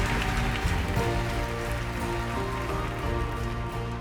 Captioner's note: applause